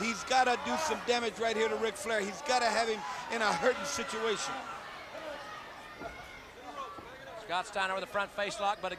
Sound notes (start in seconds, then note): 4.6 audience cheering